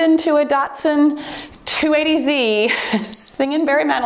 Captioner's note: timer beeps